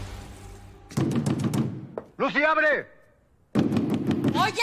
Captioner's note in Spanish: Toques en la puerta